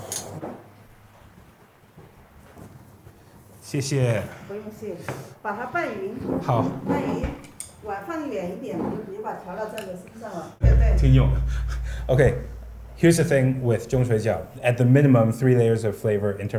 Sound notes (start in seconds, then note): 3.7 both speaking Chinese